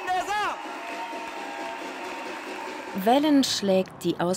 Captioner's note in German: Jubel